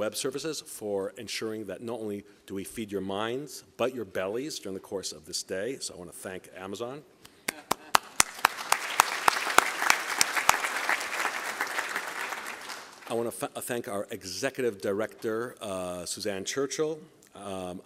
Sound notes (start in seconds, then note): 7.4 applause